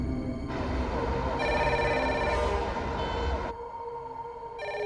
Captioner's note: phone ringing